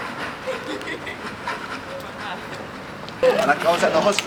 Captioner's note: laughing